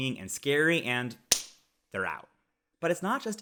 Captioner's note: hands smacking